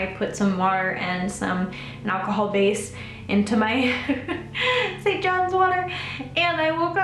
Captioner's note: laughs